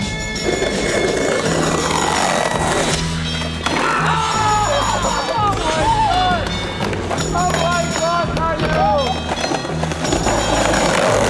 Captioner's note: cheering